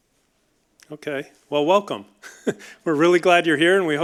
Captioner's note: chuckles